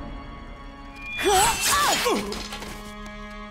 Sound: grunting

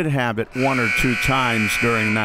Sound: buzzer

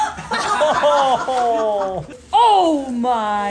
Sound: everyone laughs

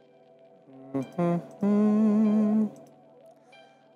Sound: hums

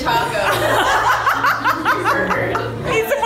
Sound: laughing

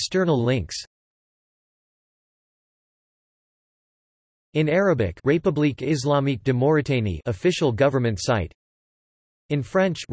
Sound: in Arabic

